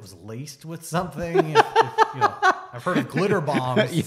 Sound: laughs

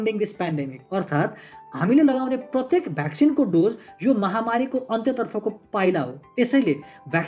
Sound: explains the same in Nepali

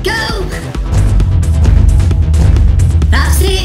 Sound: huge BOOMS!

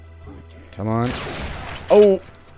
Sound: bam, whack

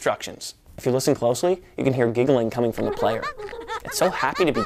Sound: giggling in background

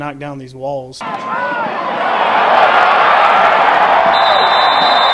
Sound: cheering

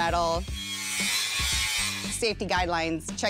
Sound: sander buzzes

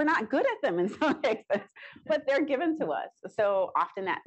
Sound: chuckles

